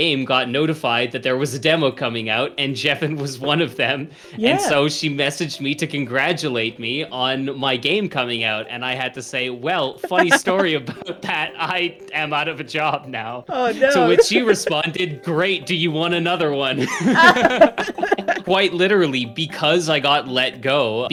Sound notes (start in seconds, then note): 10.0 laughs; 13.5 laughs; 16.7 laugh